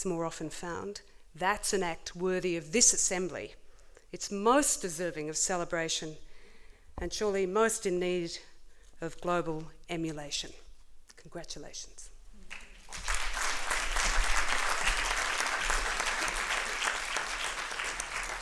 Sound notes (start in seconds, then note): 12.4 applause